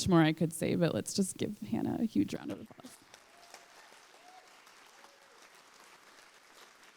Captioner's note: applause